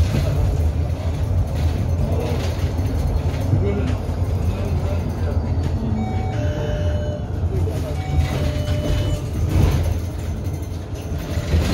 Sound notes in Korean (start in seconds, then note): 5.8 하차벨 소리